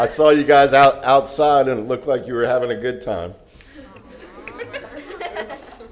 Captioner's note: cheering